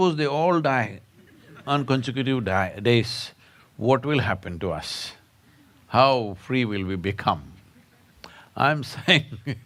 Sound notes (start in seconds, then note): 7.8 laughs